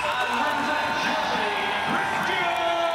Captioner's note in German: jubeln